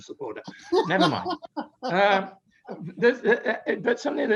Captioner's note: laughs